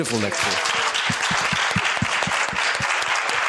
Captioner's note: applause